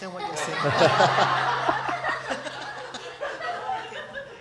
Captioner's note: laughter